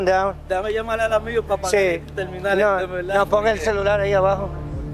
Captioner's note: both speaking Spanish